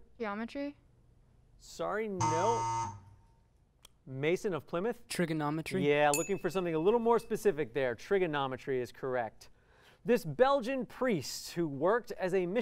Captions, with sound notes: Sorry, no. [buzzer] Mason of Plymouth. Trigonometry. [ding] Yeah, looking for something a little more specific there. Trigonometry is correct. This Belgian priest who worked as a missionary in Hawaii,